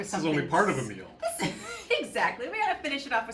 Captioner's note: laughs